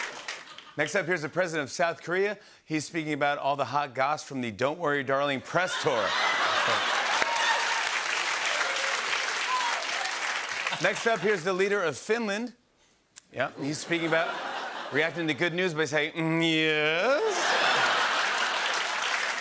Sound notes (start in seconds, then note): 5.4 laughter; 8.4 applause; 17.1 laughter